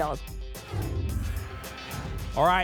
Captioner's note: whoosh